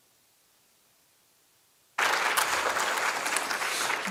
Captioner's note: applause